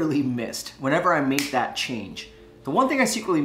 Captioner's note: snapping